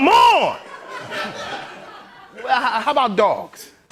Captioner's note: laughter